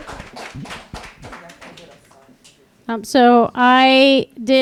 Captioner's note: applause